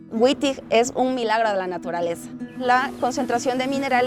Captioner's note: speaking in spanish